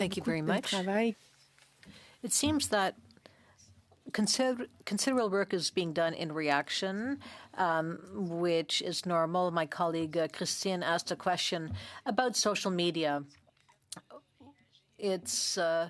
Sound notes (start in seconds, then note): 3.5 speaking French